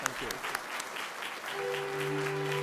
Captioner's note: applause; classical music playing